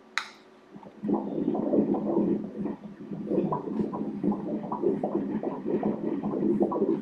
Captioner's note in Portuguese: batimentos cardíacos